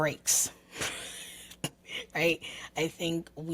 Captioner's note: chuckles